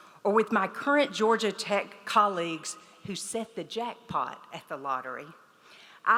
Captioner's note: none